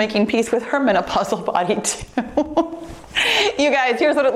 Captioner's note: laughs